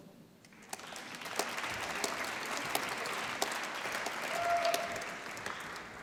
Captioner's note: applause